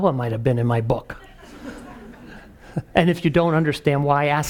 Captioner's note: laugh